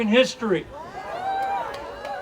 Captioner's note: audience cheering